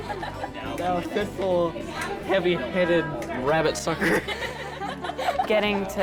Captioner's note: laughter